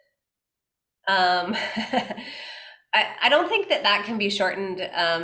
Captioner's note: laughs